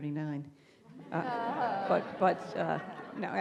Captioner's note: audience laughing